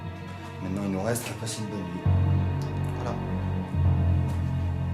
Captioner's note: speaks French